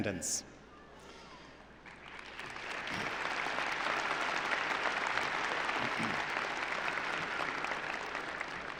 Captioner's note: applause